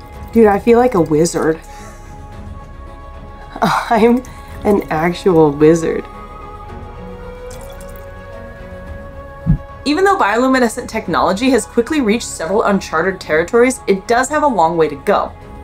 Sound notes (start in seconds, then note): 0.0 background music; 0.0 quiet water sloshing noise; 1.9 background music; 6.0 quiet water sloshing noise; 6.2 background music